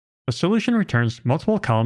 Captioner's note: none